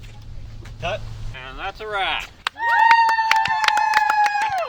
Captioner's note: group cheers